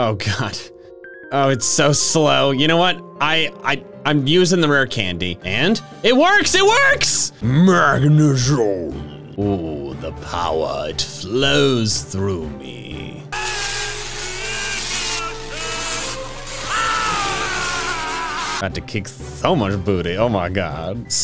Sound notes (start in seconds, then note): 13.3 electrical buzzing; 13.6 man shouting